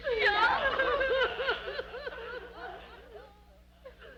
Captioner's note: women sobbing